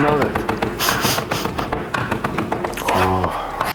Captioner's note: sniffing